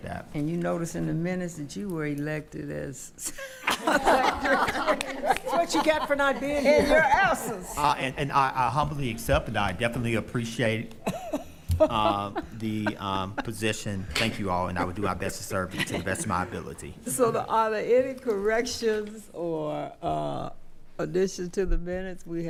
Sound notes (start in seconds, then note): 3.6 laughing; 11.0 laughing